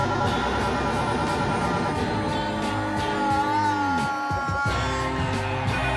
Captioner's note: phone rings; screams